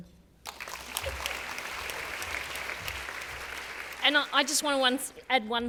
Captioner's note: applause